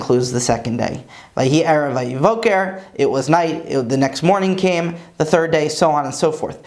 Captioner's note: Hebrew